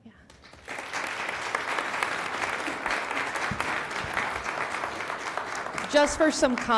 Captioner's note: applause